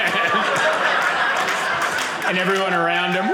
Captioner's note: audience laughing